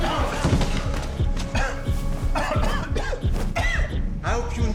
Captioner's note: Theo coughing